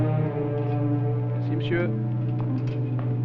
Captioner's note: French spoken audio